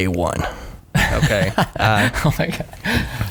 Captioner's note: laughing